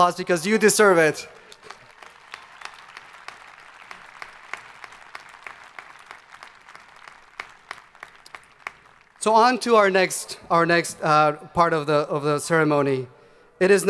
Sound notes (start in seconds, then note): 1.9 crowd applauding